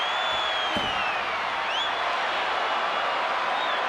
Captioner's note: fist pounding